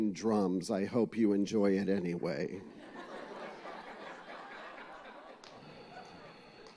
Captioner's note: laughter